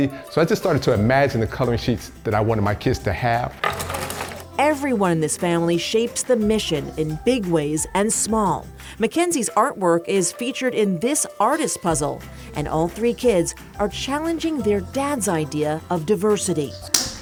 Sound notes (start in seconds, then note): 3.6 puzzle pieces clatter